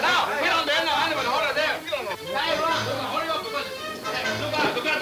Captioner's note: men yelling simultaneously